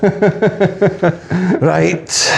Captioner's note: laughing